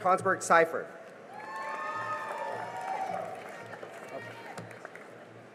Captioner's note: cheering and applause